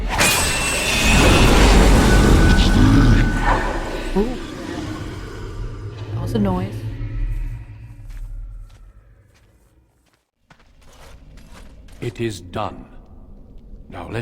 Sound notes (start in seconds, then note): 3.8 Demonic voices in mirror